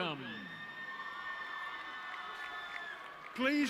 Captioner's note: audience cheering